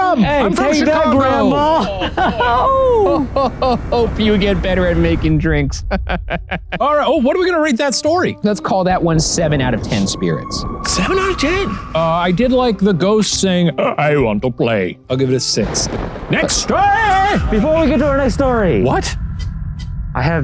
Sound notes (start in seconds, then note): 1.6 laughs